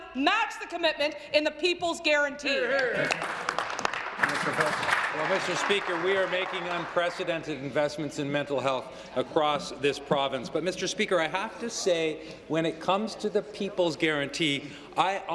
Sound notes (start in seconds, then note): 6.4 applause